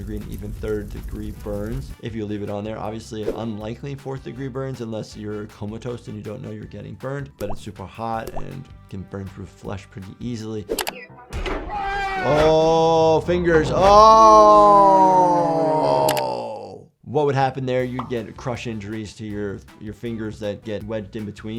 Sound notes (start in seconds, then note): 11.4 crashing; 11.6 man yells